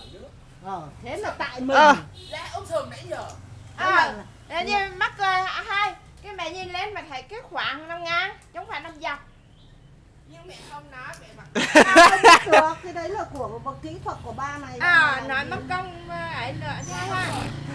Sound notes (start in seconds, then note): 11.5 laugh